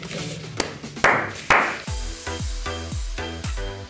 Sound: clapping

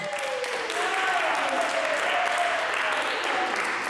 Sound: group applauds

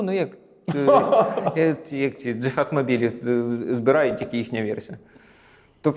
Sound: laughing

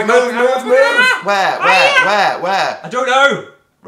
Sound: squawk

